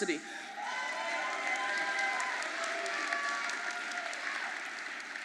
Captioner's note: audience applauding